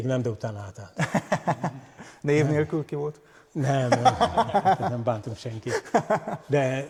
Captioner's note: laughter